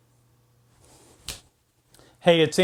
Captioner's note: snaps fingers; snaps fingers